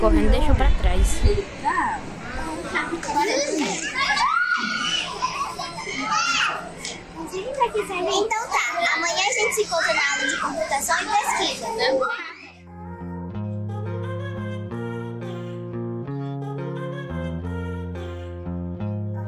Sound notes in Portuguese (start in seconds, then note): 7.6 crianças conversando